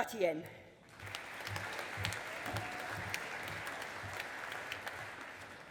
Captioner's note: audience applauding